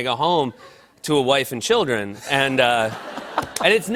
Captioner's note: laughter